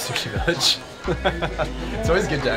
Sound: laughs

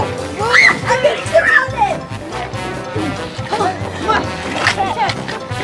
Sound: screams

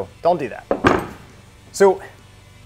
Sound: table thuds

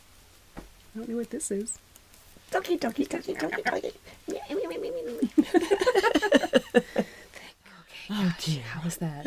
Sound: making funny bird noises

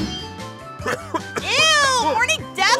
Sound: coughing up what sounds like one of his lungs

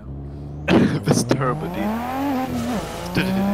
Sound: wheeze

